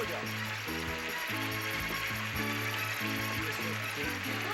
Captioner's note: audience applauding